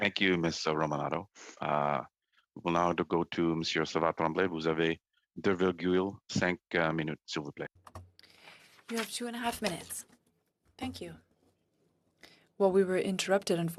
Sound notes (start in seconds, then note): 11.0 speaking French